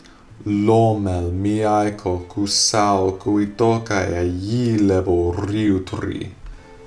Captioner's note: speaking in reconstructed seriki